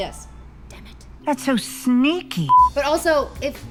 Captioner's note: beep